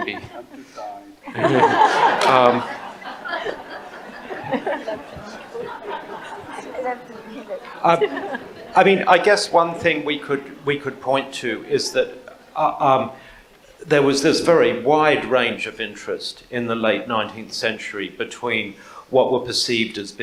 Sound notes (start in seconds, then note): 1.4 audience laughs